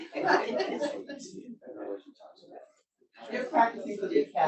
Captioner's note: audience laughs; all chattering